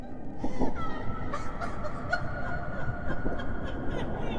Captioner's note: disembodied laughing